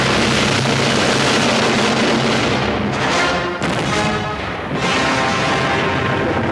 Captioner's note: mortars exploding; inspirational music